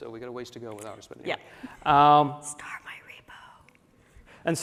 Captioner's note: whispering